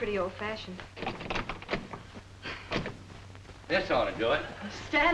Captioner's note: lock thudding